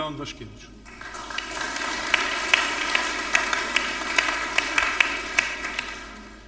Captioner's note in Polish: oklaski